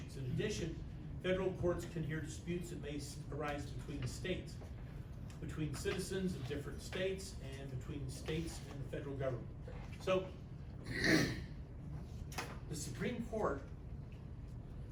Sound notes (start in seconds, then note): 10.8 clears throat